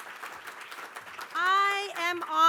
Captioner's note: applause